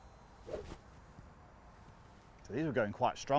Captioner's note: air whooshes